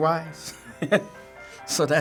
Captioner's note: laughter